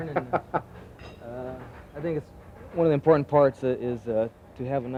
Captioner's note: laughing